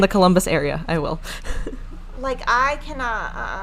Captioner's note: laughing